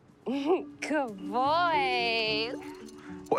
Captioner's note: chuckling